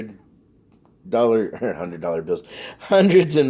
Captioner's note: laughs